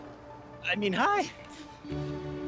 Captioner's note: chuckles